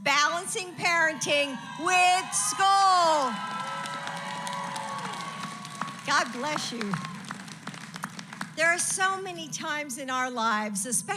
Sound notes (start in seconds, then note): 2.8 applause